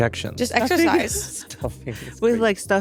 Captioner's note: laughs